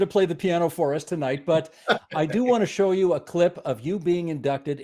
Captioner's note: laughing